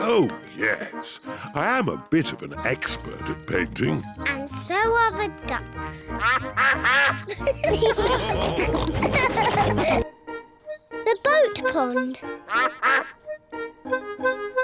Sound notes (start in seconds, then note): 6.0 quacking; 8.0 all laugh; 12.2 duck quacks